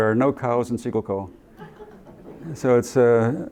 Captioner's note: laughter